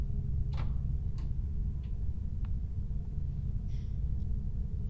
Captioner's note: door clicking